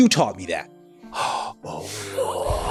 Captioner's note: gasps and Ooh's; sigh